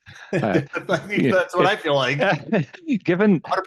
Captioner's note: laughs